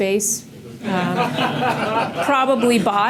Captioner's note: audience laughs